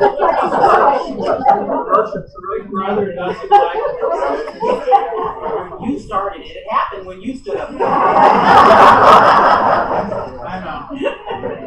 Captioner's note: laughter